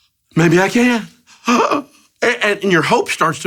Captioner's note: gasps